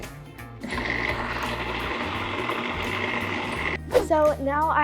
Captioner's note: uses food processor again